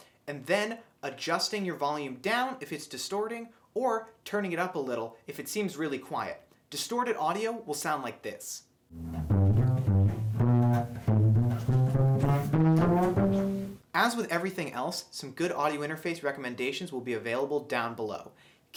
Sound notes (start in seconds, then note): 8.9 distorted audio